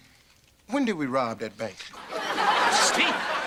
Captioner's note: audience laughter